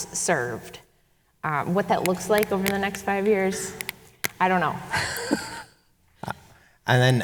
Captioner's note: chuckles